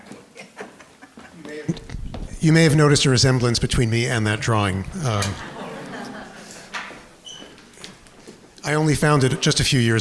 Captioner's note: audience laughter